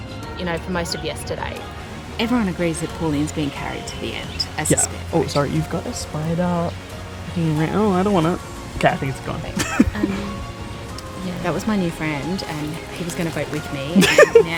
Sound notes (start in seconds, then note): 9.5 giggles